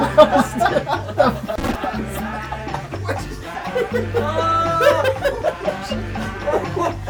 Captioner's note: buzz